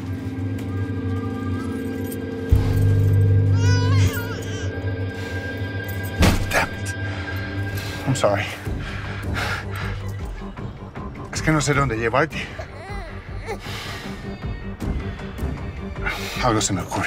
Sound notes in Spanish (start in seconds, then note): 3.4 Llanto del bebé